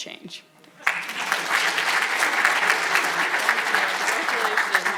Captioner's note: audience applauding